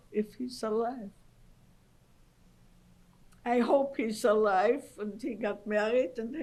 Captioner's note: pauses for 3 seconds